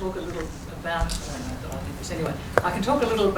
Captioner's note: speaks faintly